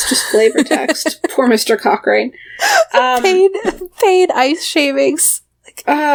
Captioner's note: laughs